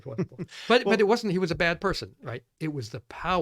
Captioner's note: laughs